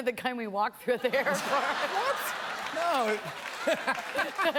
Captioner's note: laughter